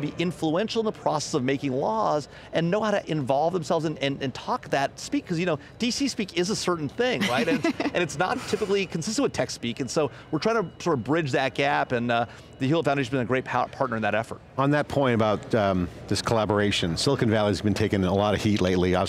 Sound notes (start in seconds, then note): 7.2 laughing